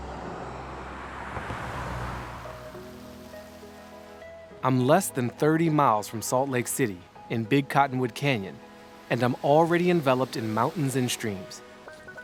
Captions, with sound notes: (car rumbling) (calming music continues) (water burbling) I am less than 30 miles from Salt Lake City in Big Cottonwood Canyon, and I'm already enveloped in mountains and streams,